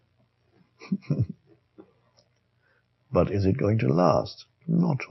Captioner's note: chuckles